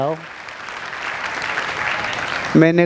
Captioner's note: round of applauses